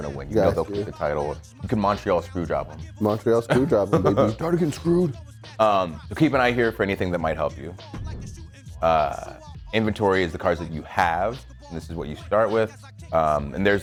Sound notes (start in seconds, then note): 3.0 laugh